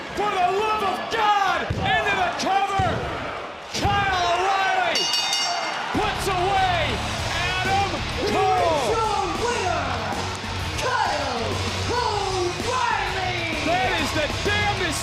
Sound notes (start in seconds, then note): 4.9 bell rings; 8.8 audience cheering